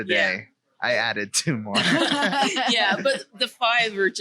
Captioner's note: laughing